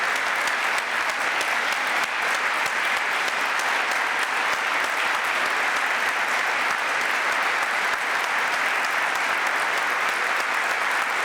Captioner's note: applause